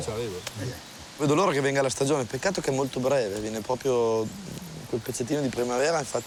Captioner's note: speaks in foreign language